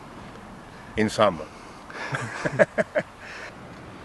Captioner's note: laughs